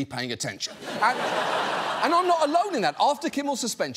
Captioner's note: laughter